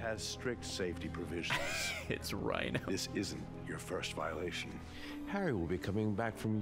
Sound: laughs

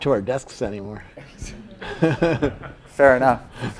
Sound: laugh

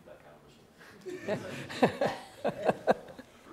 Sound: laughter

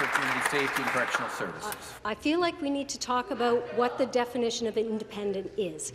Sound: applause

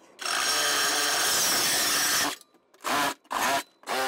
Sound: blade whirs

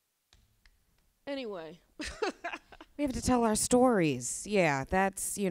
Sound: laughs

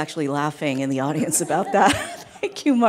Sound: audience laughing

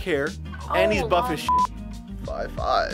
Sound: beep

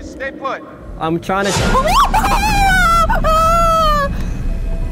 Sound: shrieks

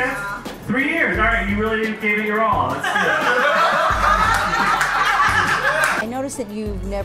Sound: laughs

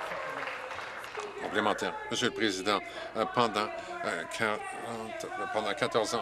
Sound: applause

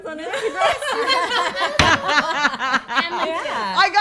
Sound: laughing

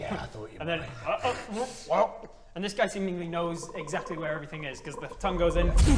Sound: croak

